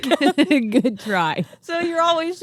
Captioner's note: both laughing